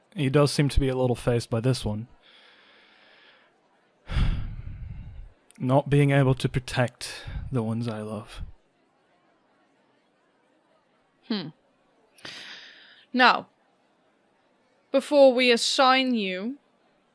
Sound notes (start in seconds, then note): 5.6 sighs